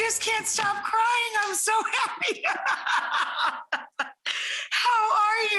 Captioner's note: laughs